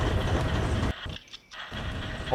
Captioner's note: click